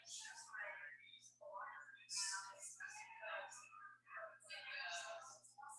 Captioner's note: people chattering indistinctly